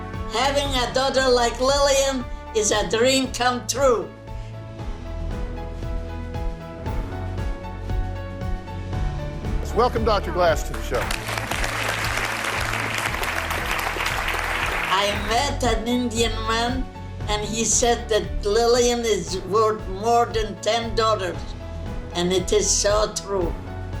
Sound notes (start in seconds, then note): 10.7 audience applauding